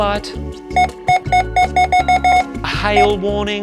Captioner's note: scanner beeping repeatedly